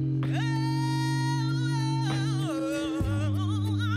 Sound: humming

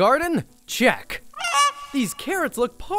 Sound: goose squawks

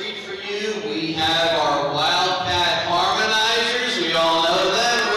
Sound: PA announcer

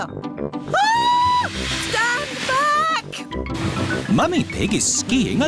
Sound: shrieks

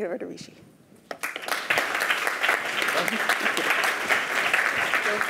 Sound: applause

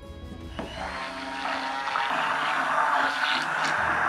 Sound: blender whirring

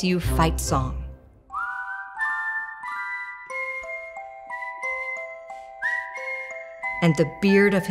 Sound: whistling

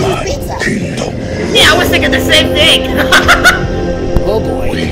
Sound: laughs

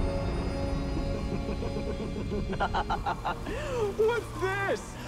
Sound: sinister laugh

